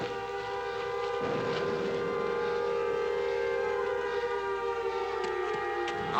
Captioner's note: sirens Continue